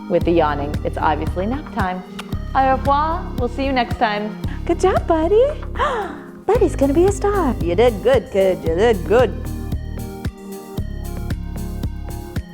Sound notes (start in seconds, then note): 2.9 speaks in foreign language; 9.7 upbeat music